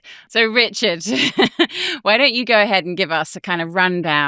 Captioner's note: chuckles